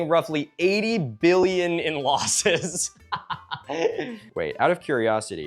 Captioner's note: laughs